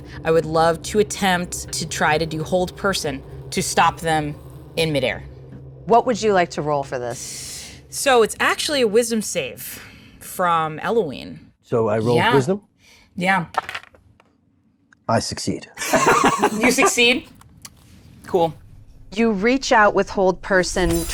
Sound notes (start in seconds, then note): 13.5 die rattles; 15.8 laughs